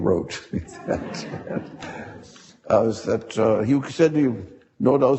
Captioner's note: audience laughing